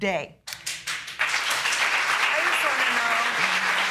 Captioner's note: audience clapping